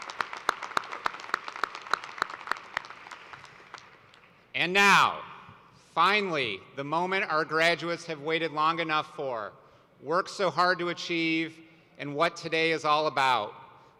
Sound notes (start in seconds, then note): 2.1 applause